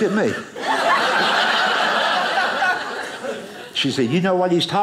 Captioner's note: audience laughing